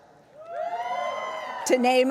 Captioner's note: audience cheering